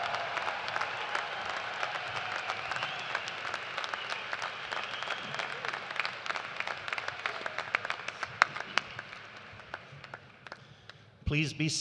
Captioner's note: cheers and applause